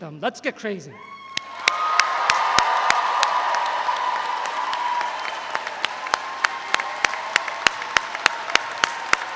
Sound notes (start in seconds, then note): 1.0 all cheer; 1.3 all applauding